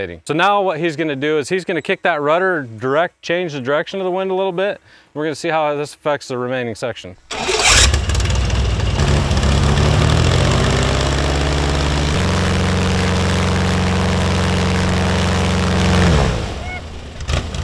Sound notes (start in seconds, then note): 7.3 engine starts; 11.9 wind fan blows